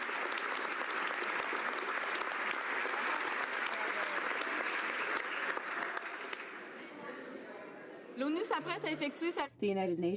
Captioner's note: some Applause